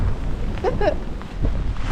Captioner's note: chuckles